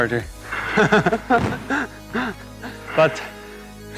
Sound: laughs

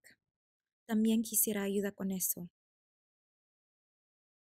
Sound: actor speaking Spanish

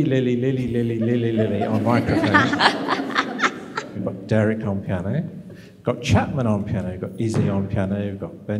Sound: laughter

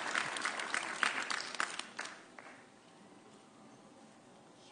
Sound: audience cheering

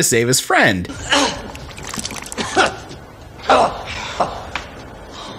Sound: painful tree arnold noises

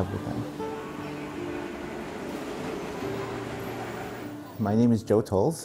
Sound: train screeches

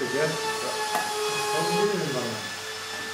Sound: machine drone

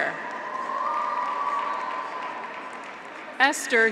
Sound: audience applauds; graduates cheer

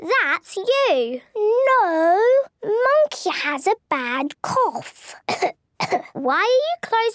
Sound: pretending to cough

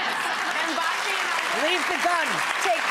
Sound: crowd laughs; crowds claps

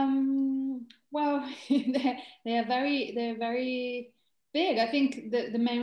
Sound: chuckles

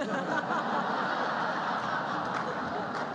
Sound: laughter

